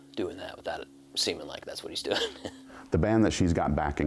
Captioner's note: risos